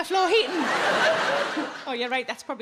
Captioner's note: audience laughing